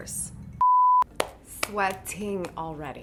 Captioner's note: beep